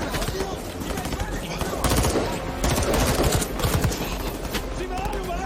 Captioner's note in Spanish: Disparos